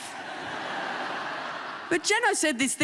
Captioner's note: audience laughing